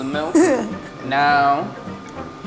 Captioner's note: laughs